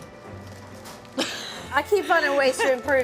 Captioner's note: laughing